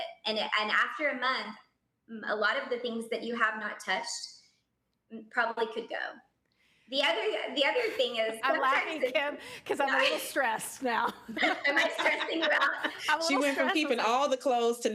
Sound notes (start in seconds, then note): 10.9 laughing